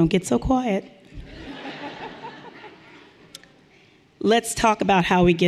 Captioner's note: audience laughing lightly